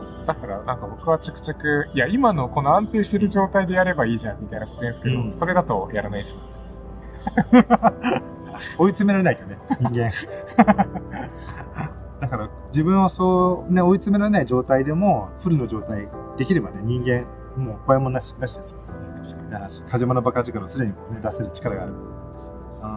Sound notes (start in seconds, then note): 7.1 laughs